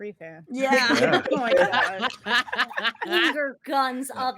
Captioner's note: all laughing